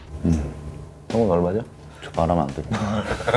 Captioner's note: mmm